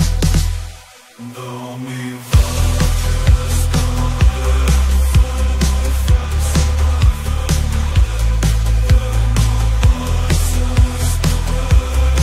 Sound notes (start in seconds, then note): 1.1 chanting